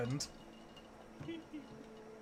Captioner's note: snickering